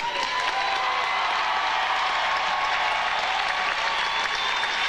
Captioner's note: audience applauding and cheering